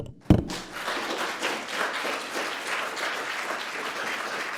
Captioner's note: audience applauding